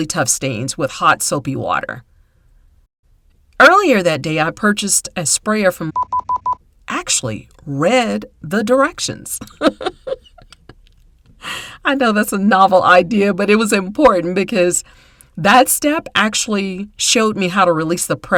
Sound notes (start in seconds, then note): 5.9 beep